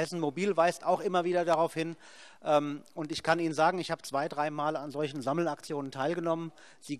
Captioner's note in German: none